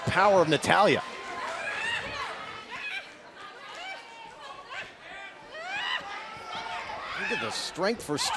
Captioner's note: crowd chatter